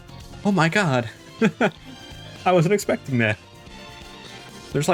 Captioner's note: chuckle